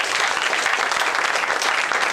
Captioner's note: applause